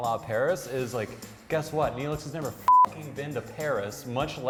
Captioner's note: beep